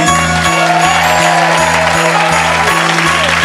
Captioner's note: audience cheering; audience clapping